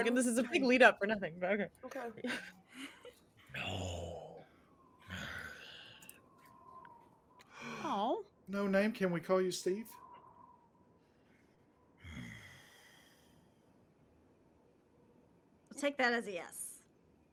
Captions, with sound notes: This is a big lead up for nothing but okay. (heavy voice) No name. - No name? Can we call you Steve? (grunts) - I'll take that as a yes.